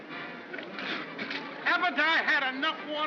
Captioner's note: spits